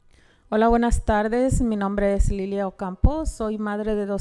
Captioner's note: speaking Spanish